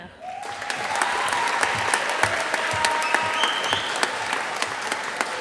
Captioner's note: audience applauding